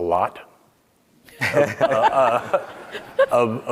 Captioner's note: all laughing